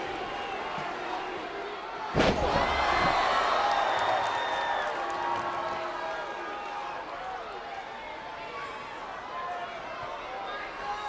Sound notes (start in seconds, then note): 2.1 mat thumping; 2.3 crowd cheering